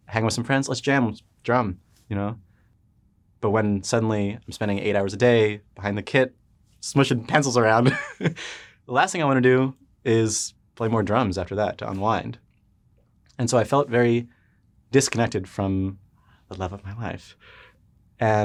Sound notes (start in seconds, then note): 8.4 laughs